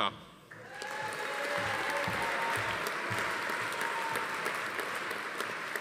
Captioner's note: attendees cheering; audience applauding